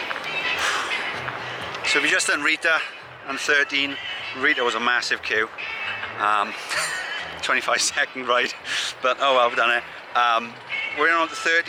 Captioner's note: laughs